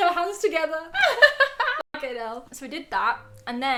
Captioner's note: laughs